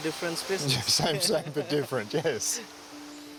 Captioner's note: laughing